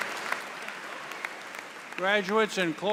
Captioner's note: cheers and Applause